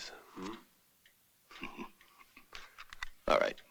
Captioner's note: chuckles